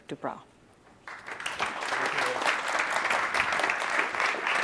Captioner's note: audience applauds